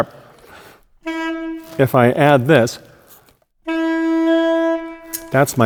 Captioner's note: plays tone; plays sharper tone